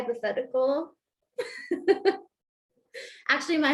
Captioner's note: laughter